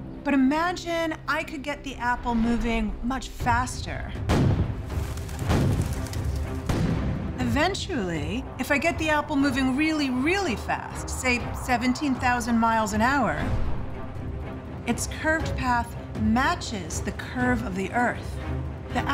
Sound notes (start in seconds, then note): 4.5 cannon firing